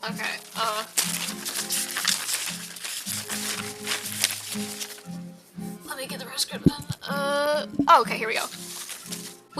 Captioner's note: sound of rustling paper